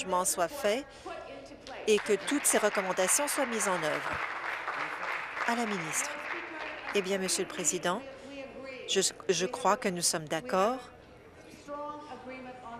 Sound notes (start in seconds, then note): 5.0 applause